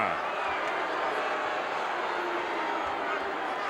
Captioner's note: crowd boos